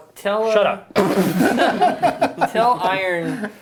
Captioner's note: laughing